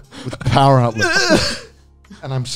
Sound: grunting

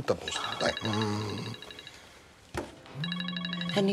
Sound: cell phone rings

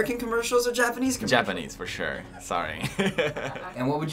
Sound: chuckles

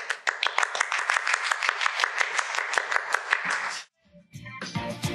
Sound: applause

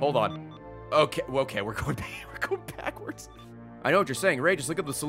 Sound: laughs

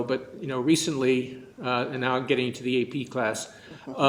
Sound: laughter

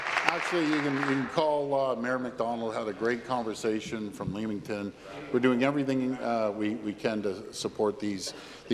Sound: applause

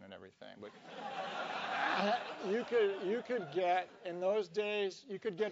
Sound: laugh

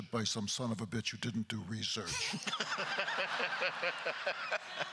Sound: laughing; crowd laughter

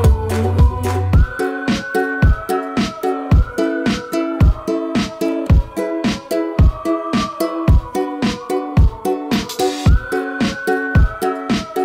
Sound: whistling

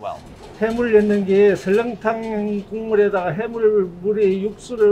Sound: speaking in Korean

